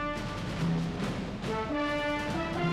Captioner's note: none